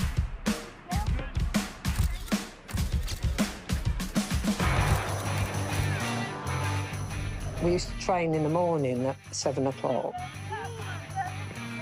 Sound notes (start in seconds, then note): 1.8 shutters click